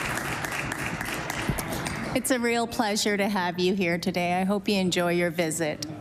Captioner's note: applause